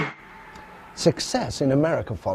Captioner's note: band playing; crowd cheering